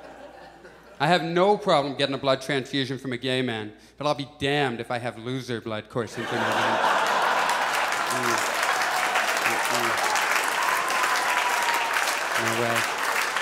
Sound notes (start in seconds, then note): 6.2 audience applauds